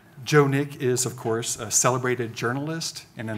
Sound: none

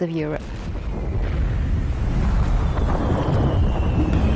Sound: guns boom and thunder

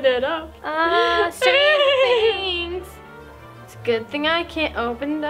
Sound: laughing

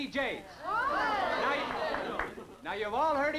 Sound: party goers chattering

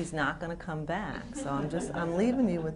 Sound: laughter

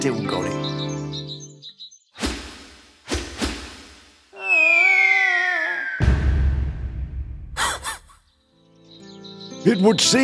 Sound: falling sound and loud bang, dog laughs

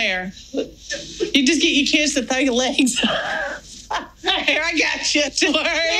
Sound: laughing

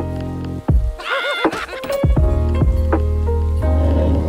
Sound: laughing

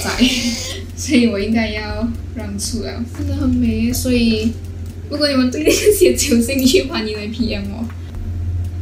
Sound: laughs

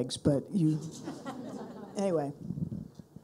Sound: people laughing

